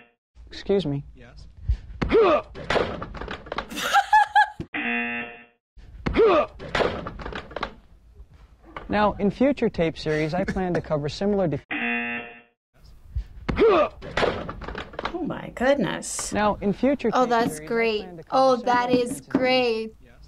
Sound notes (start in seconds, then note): 0.0 buzzer; 2.6 chair clatters; 3.7 laughs; 4.8 buzzer; 6.6 chair clatters; 10.5 chuckles; 11.7 buzzer